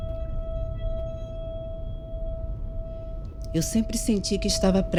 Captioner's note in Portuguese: tilintar metálico continua